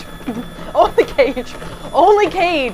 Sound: laughing

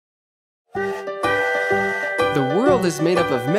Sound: train tooting

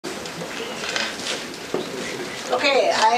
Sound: background chatter

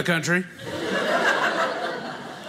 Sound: audience laughing

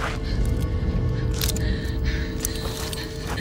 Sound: twig snaps

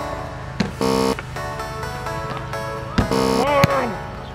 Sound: buzzing; buzzing

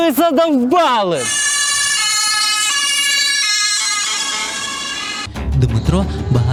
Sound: the sound of the “ambulance”

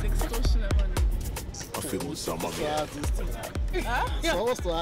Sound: keke driver speaking pidgin English

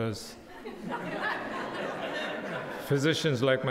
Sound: crowd laughing

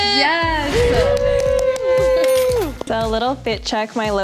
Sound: cheering

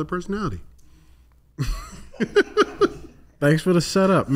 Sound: laughs

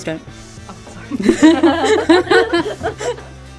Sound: laughs

